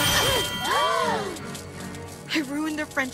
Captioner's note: all gasp